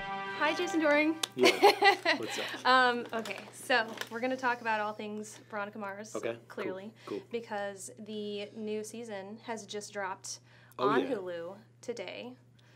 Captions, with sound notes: - Hi, Jason Dohring. - Yeah (laughs) what's up. - Okay. So we're gonna talk about all things Veronica Mars. - Okay, cool. - Clearly. - Cool. - Because the new season has just dropped - Oh yeah. - On Hulu today.